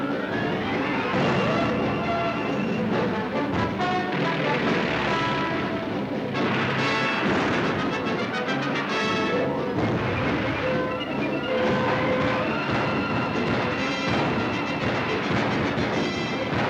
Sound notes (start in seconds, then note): 4.5 aircraft engine whirring; 5.9 dramatic music; 5.9 guns firing